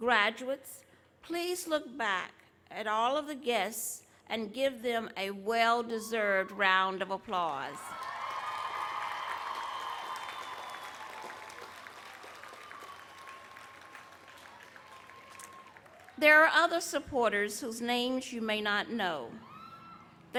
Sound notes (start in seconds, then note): 9.4 applause